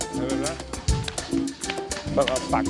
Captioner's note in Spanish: Música salsa; Aplausos